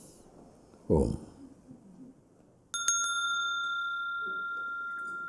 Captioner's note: Mooji rings the bell